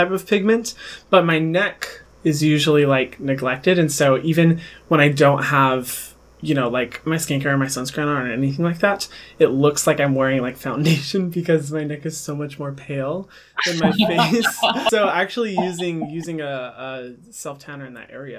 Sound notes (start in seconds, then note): 13.6 laughter